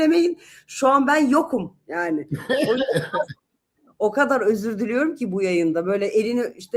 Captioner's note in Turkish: kahkaha